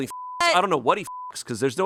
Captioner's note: beep